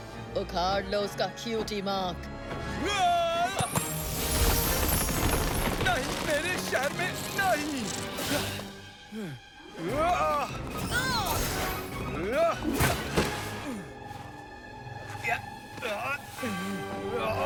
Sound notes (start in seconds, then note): 2.6 groaning; 8.1 grunting; 14.9 grunting